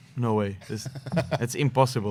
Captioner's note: laughter